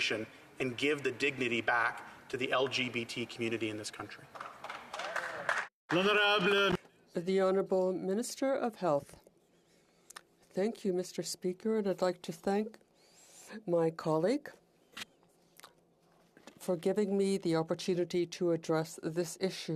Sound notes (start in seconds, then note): 5.9 applause